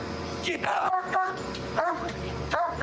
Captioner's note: barking